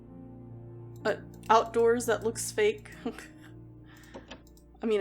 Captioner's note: laughs